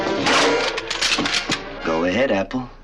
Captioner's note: gun cocking